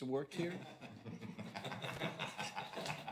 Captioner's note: chuckling